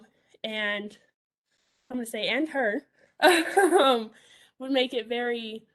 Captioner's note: laughs